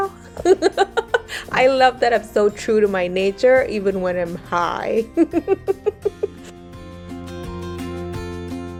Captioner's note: laughs